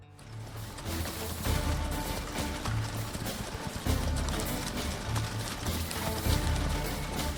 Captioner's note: horse hooves clopping; lively music